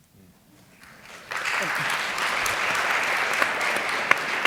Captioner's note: applause